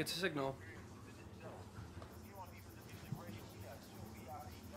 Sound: distant TV chatter

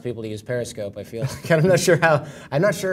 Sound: laugh

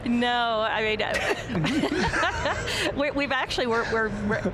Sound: laughing; panelists laughing

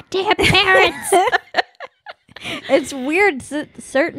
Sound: laughing

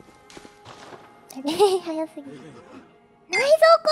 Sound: laugh

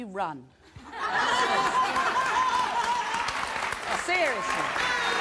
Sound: audience laughing

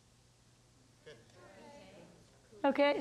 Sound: audience murmurs

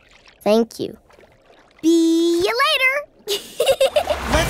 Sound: giggling

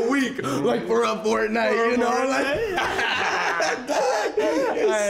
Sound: laughs

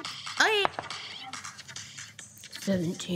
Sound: dice thunking

